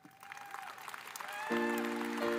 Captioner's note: audience applauding; elegant piano music